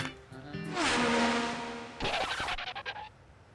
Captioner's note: whoosh